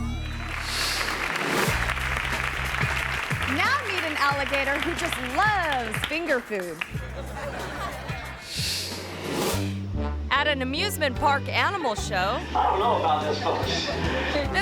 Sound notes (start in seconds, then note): 0.0 audience applauding; 6.1 audience laughing